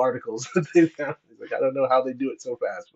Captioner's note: laughs